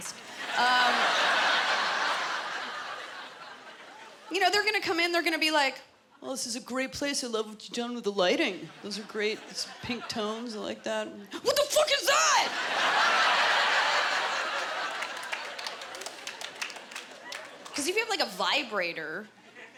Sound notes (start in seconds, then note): 0.1 laughter; 12.3 laughter